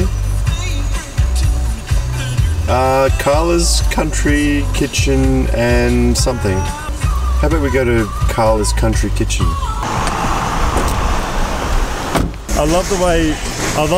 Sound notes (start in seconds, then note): 0.1 radio plays music; 11.5 door slamming